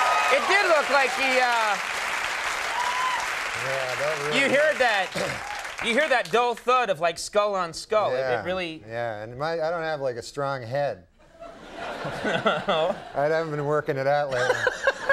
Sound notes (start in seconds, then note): 11.3 audience laughs